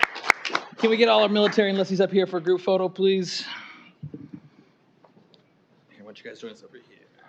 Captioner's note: applause